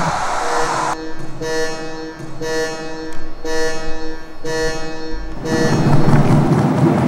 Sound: beeping

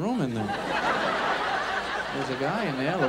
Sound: audience laughs

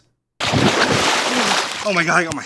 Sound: water splashes

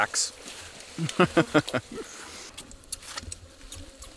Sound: laughing

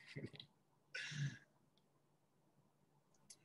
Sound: laughs

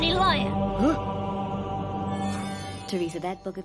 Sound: gasping

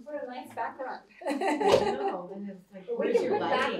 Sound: laughter

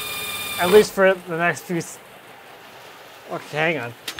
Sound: drill whirring; rain drumming

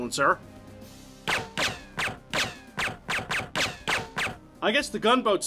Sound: movie silencer sound

